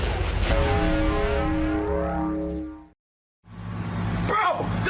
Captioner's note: bell tolling